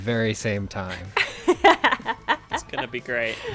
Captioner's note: laughs